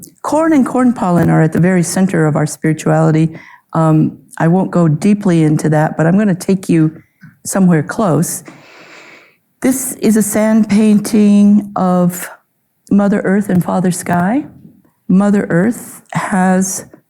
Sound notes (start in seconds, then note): none